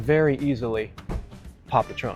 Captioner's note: pop!